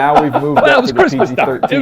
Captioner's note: laughs